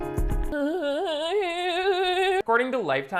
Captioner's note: moaning